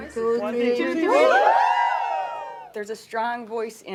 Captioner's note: celebratory noise